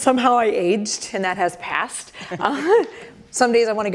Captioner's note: laughter